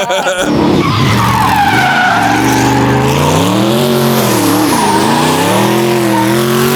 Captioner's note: laughs; tires screeching; throttle growling